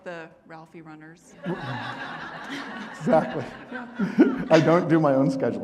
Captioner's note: audience laughing